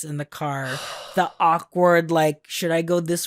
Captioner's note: sighs